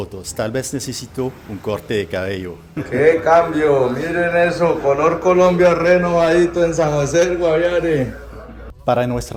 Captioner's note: laughter